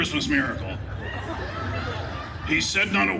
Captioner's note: guests laughing